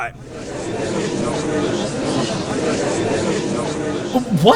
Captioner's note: gallery chattering